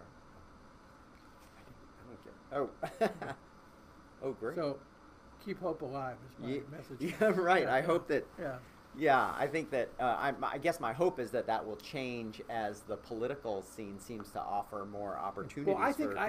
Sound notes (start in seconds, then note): 0.0 voice muffled; 2.7 laughing